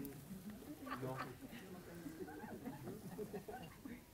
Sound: laughing

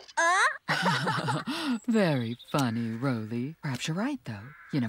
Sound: chuckling

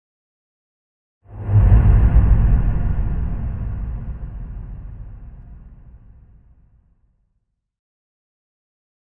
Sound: sound of reverb whoosh

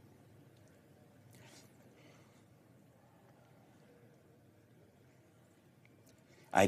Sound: silence

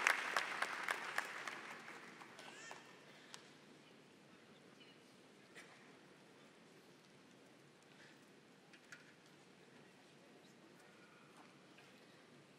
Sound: applause

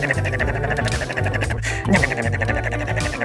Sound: Arlo eating sounds

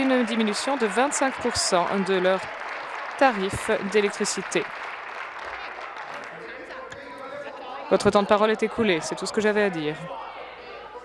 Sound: applause

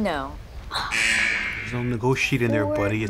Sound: buzzer

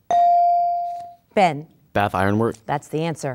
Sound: dinging

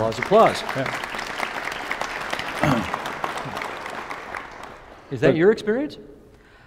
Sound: applause

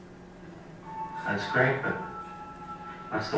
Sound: voiceover

